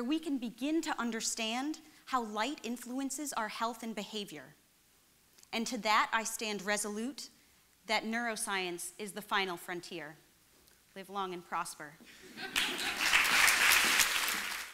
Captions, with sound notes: we can begin to understand how light influences our health and behavior. And to that I stand resolute that neuroscience is the final frontier. Live long and prosper. [LAUGHTER] [APPLAUSE]